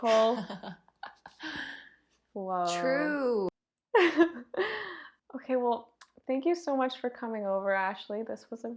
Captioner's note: giggle